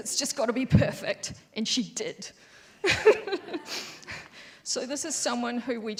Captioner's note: laughs